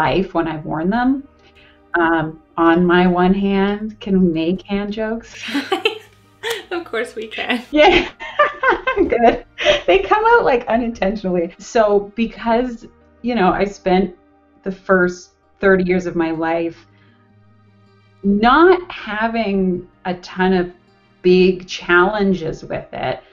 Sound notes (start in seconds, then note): 5.4 laughs; 9.0 laughs